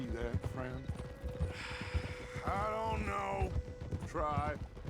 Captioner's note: sigh